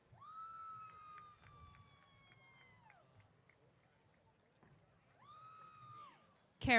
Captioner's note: cheers